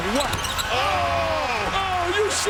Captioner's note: crowd cheering